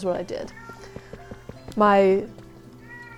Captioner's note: more kitty meows